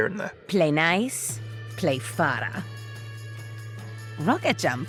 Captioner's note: voiceover